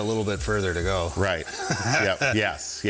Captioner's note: chuckles